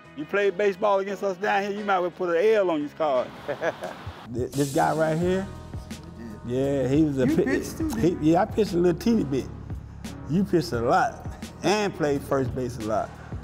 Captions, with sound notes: - You played baseball against us down here. You might as well put a L on these card. (chuckles) - This guy right here? Yeah, he was a pitcher. - You pitched too, man. - Yeah, I pitched a little teeny bit. You pitched a lot and played first base a lot.